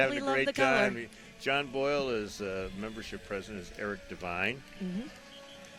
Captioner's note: cars honking